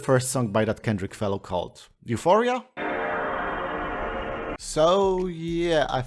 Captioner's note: PS2 boot sound